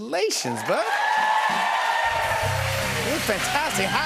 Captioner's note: cheers and applause